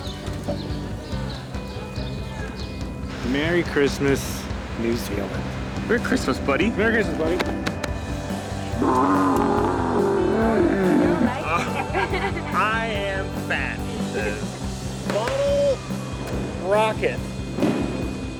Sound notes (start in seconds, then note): 8.6 camel bawling; 12.2 laughing